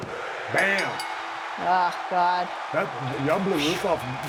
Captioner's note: bell rings